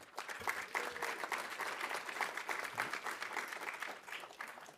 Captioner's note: audience applauding